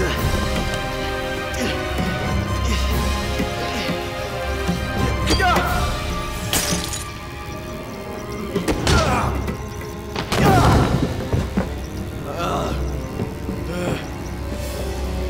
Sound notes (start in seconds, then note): 0.0 grunting; 6.4 glass breaking; 12.3 groaning